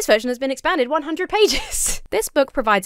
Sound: laughs

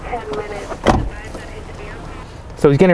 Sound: car door thuds

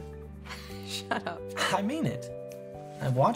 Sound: chuckles

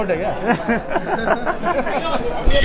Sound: laughs

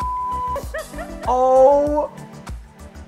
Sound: laughing

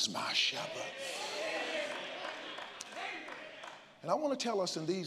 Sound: congregants call out and applaud

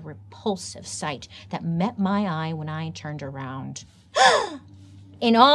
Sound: gasps

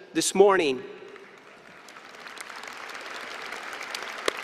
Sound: applause

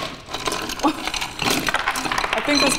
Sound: laughing

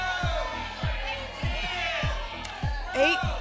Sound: audience shouting numbers

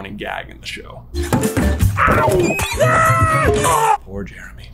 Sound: assorted yowls and aaaaaaaaaagh's

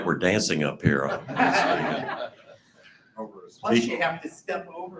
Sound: group laughing

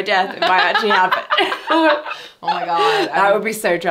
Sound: laughing

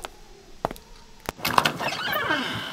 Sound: door opening

